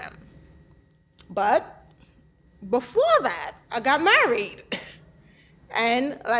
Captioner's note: laughs